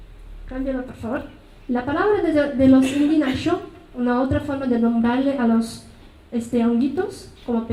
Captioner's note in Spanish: habla en mazateco; habla en mazateco